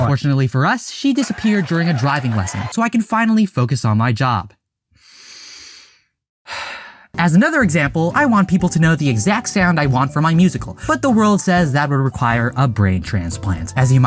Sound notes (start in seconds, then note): 6.5 deeply breathe in and out